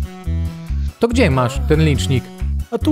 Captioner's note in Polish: Stękanie